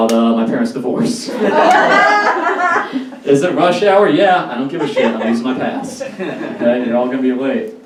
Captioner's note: audience Laughs